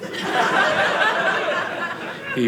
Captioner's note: audience laughing